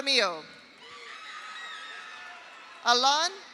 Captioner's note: audience applauds; audience cheers